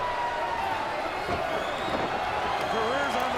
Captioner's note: crowd cheering